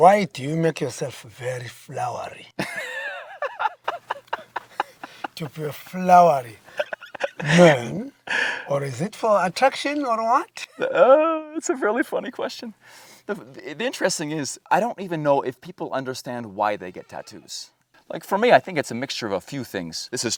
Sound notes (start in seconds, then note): 2.6 both laughing